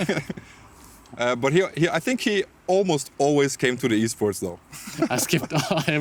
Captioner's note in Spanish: Risas